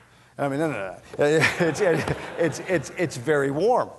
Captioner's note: laughter